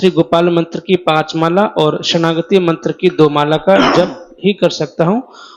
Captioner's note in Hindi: गला साफ़ करने की आवाज़